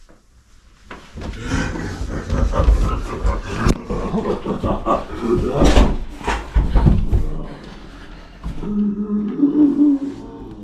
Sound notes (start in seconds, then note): 1.4 Brad growls; 8.7 Brad wheezes